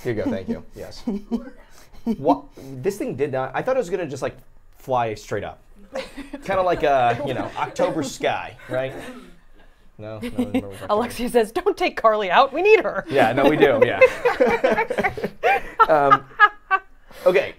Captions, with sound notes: - Here you go, thank you, yes. This thing did, I thought it was just gonna just like fly straight up. Kind of like a, you know, October sky, right? - (laughs) Alexia says don't take Carly out. We need her." - Yeah, no, we do, yeah. (everyone laughs)